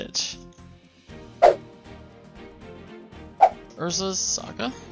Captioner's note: card whipping sound